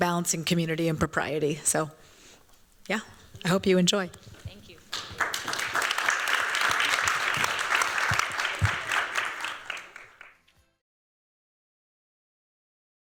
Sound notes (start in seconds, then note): 4.8 applause